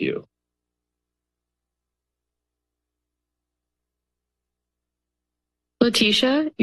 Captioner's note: silence